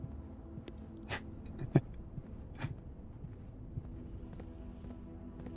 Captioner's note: chuckles